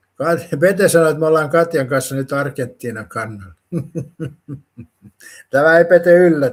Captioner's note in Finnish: naurua